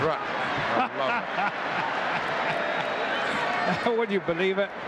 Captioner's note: laughing